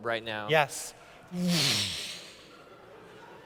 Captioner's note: vroosh